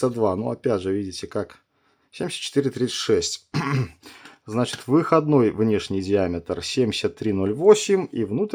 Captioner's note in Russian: откашливается